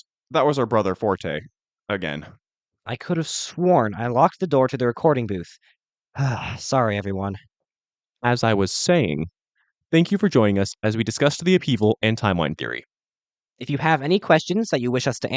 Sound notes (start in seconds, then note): 0.0 awkward silence; 6.1 sighs